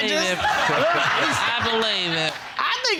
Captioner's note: all laughing